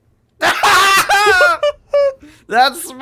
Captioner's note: laugh